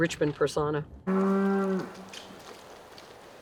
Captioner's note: loud cow mooing